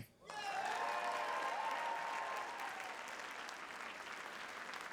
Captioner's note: audience applauding